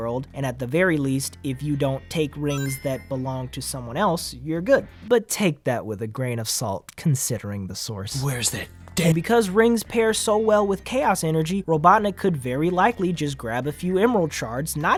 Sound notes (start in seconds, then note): none